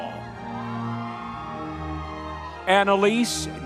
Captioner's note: audience members cheering